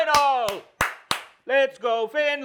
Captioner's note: claps